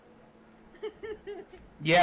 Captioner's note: more laughter